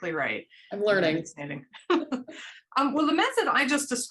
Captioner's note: laughter